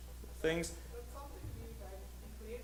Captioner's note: voiceover